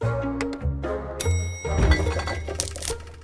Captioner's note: theme music; bell dings; bottles rattles; stalk crunches